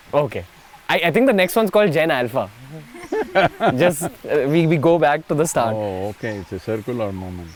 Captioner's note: Sadhguru laughs